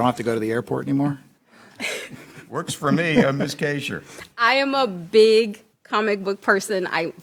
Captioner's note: laughter